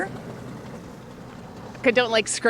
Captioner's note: car engine roaring